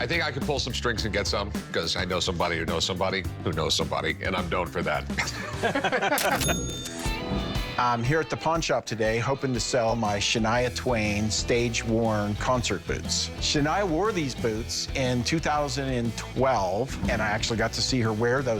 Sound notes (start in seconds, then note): 5.1 laughter; 6.1 cash register rings